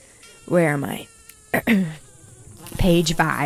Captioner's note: clears throat; mosquito buzzing